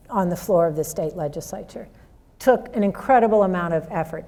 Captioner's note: none